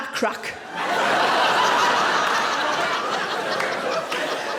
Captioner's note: audience laughing